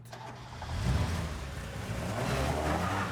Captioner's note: car engine revving